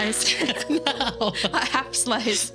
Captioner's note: laughing